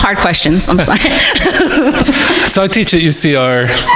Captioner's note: crowd laughing